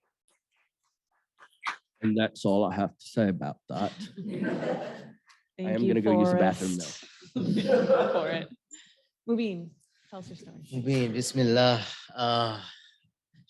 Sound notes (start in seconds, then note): 3.8 chuckles